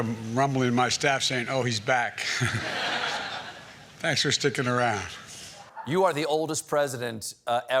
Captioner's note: laughter